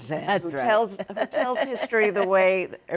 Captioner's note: laughs